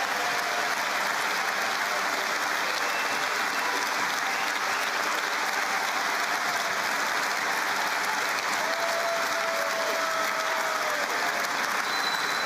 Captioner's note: cheering